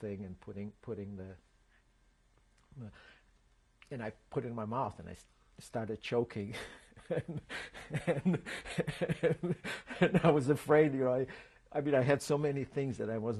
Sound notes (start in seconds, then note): 6.5 laughs